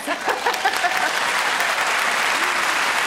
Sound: audience applause

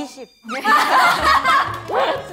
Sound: laughter of embarrassment

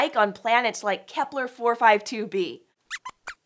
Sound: squeaks

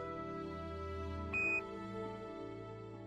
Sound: beeping sound

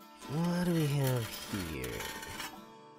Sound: item dragging across shelf

